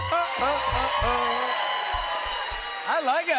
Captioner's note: cheers and applause